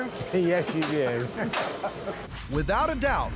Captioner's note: laughs